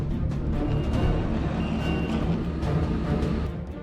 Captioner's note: doors closing